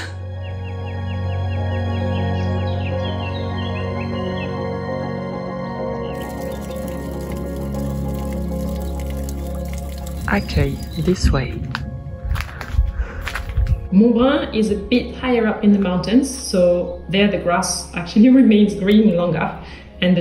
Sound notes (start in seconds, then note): 0.1 calming music; 0.2 birds chirping; 6.1 water trickling